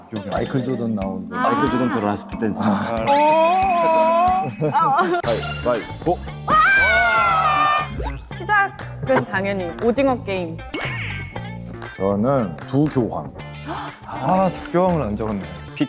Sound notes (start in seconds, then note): 13.6 sigh